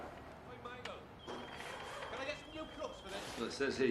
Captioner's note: telepon berdering